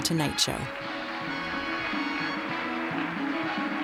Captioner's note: audio claps in recording